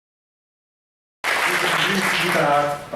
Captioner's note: applause